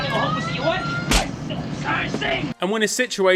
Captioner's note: hand slaps